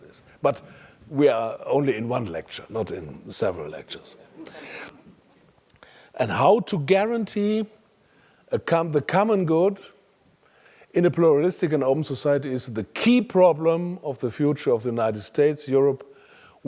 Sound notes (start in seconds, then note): 4.2 laugh